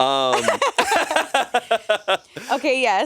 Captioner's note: everyone laughs